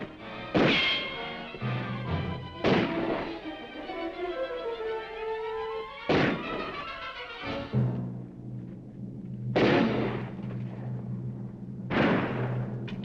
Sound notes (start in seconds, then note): 0.0 dramatic music; 0.9 guns firing; 2.7 dramatic music; 6.2 guns firing